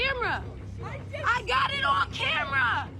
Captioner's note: shouting